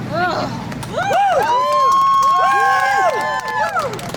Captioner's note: cheering